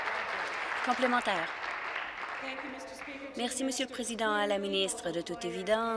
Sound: applause

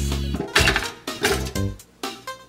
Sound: waffles clanking; playful electronic music

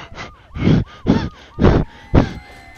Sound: panting

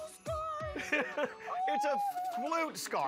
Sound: laughs

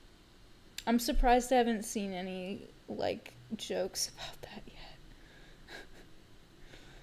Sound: laugh

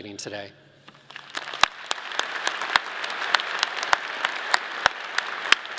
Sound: audience clapping

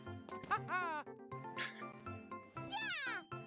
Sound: laughs softly

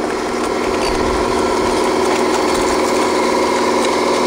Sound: machines humming

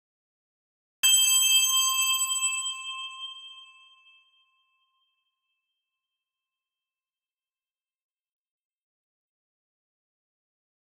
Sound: sound of Christmas bell

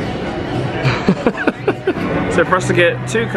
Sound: laughs

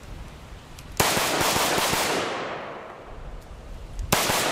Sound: gun firing rapidly

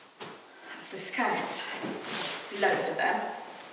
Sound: fabric rustling

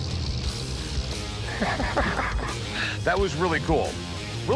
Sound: laughs

